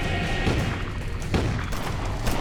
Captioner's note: gunshots